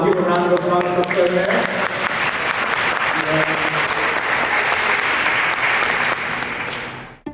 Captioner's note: applause